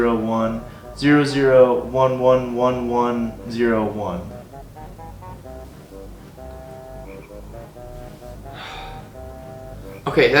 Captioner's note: sigh